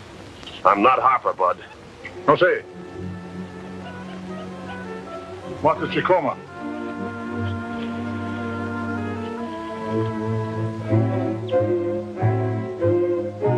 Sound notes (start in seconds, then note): 2.1 tribal language spoken audio